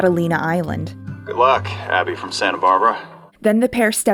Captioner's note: voice on Radio